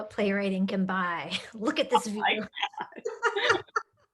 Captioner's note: laughing